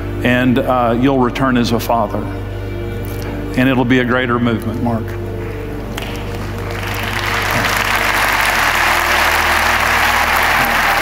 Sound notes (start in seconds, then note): 5.9 audience applauds